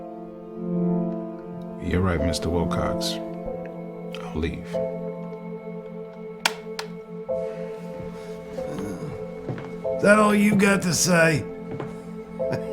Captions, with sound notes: You're right Mr. Wilcox. I'll leave. (tape recorder clicks) That all you got to say? (chuckles)